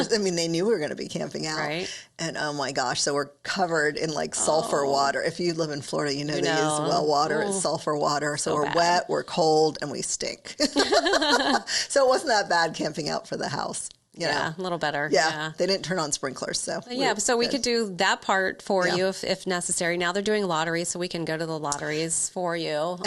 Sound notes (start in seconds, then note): 10.6 both laughing